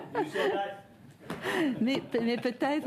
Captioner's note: laughter